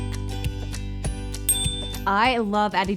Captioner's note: bright upbeat music continues; bell dings